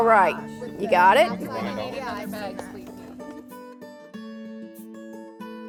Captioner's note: people chattering